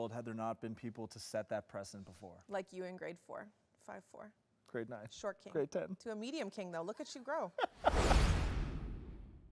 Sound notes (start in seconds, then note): 7.6 laughs